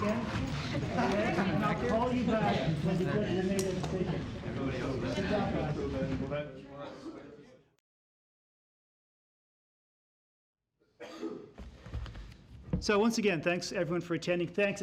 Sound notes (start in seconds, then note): 6.0 indistinct chatter